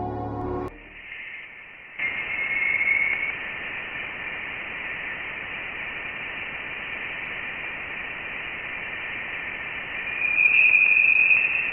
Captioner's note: sound of the interstellar space